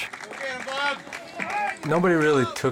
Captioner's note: crowd cheering